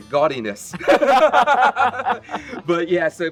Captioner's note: both laugh